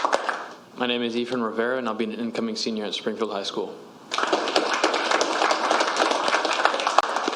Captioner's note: applause